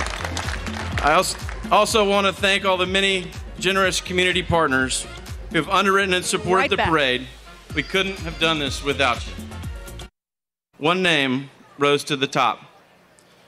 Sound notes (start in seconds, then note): 0.0 applause